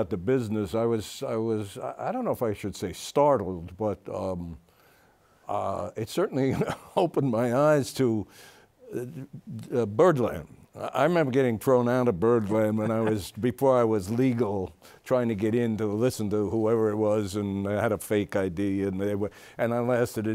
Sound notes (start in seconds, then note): 7.5 laughs